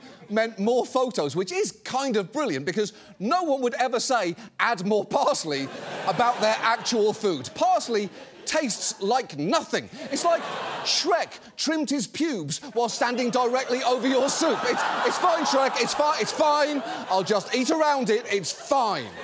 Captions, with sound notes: meant more photos, which is kind of brilliant because no one would ever say, "add more parsley" about their actual food. Parsley tastes like nothing. It's like Shrek trimmed his pubes while standing directly over your soup. -(AUDIENCE GASP, GROAN) -"It's fine, Shrek. It's fine. It's fine. I'll just eat around it. It's fine!"